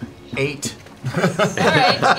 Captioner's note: laughter